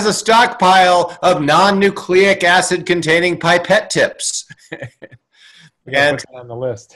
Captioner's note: chuckles